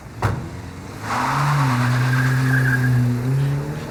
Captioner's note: tires screeching